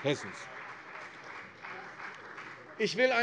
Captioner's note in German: Beifall CDU